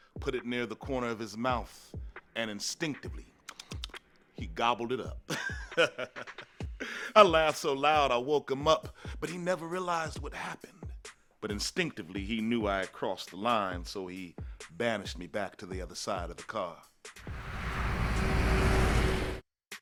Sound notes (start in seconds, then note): 5.2 chuckles; 17.2 car engine revving